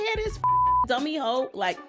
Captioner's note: beep